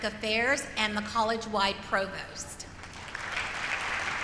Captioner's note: applause